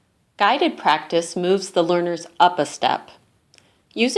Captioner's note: voiceover